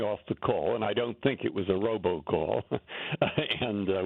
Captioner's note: laughter